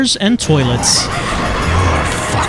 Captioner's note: blood explosion, crazed laughter